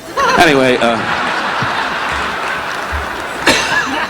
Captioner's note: audience laughing